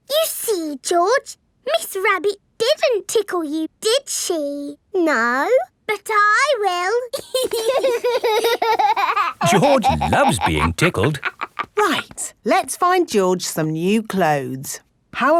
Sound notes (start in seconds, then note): 7.2 laughing